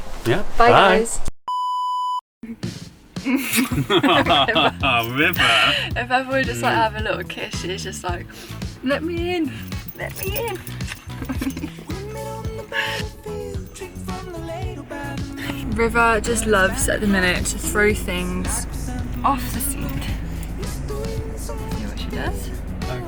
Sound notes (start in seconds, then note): 5.0 laughs